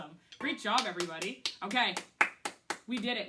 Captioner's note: claps hands